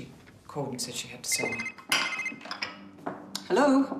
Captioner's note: phone ringing